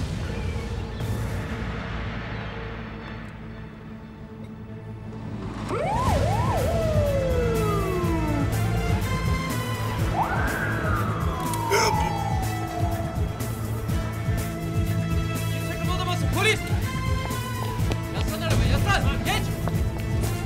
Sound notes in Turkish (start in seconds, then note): 5.3 Siren sesleri